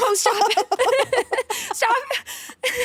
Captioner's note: both laughing